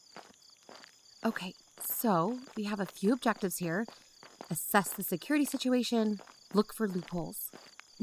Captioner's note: hushed